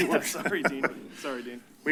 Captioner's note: chuckles